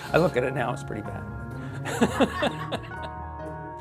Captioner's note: laughs